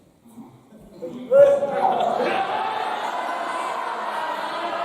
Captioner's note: laughter